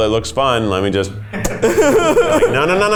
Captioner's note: laughs